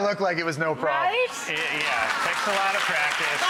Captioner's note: audience applause